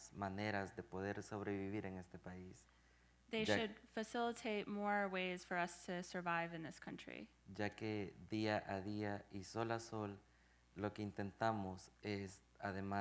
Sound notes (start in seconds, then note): 7.5 speaking in Spanish